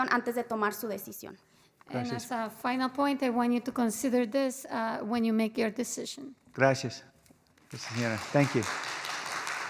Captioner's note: spanish